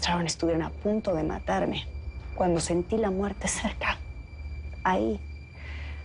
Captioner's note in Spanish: none